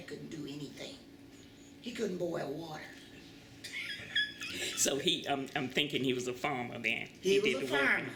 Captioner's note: laughter